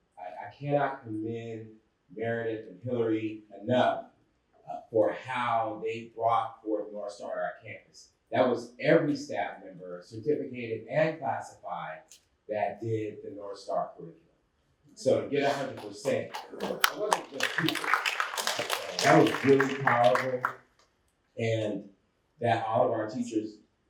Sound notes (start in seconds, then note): 15.4 applause